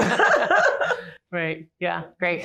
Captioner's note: laughter